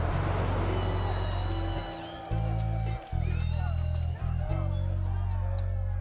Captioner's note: protestors chanting; cheers and applause